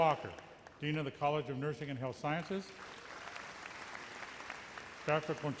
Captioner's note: audience applauds